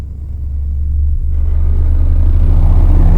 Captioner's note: engine revving